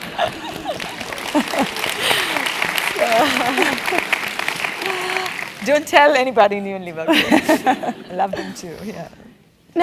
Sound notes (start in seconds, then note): 0.0 laugh; 0.0 applause; 7.0 laugh